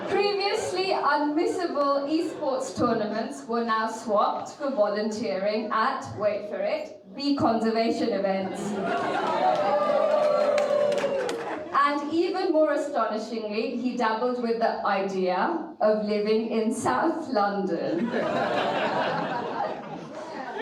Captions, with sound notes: Previously, unmissable e-sports tournaments were now swapped for volunteering at, wait for it, the conservation events. (audience cheering) And even more astonishingly, he dabbled with the idea of living in South London. (audience laughing)